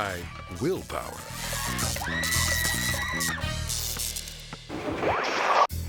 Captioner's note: electricity buzzing; person screaming; slides swooshing